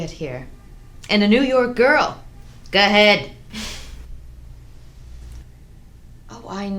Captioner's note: chuckles